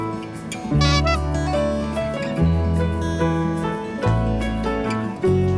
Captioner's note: laughs